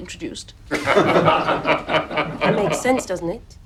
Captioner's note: laughing